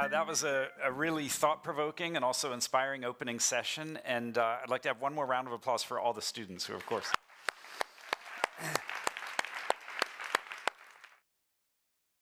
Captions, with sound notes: That was a really thought provoking and also inspiring opening session. And I'd like to have one more round of applause for all the students who, of course. [APPLAUSE]